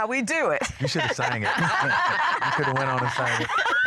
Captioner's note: laughter